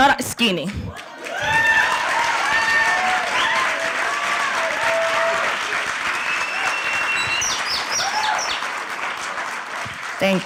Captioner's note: applause; cheering